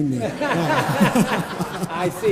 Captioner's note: laughter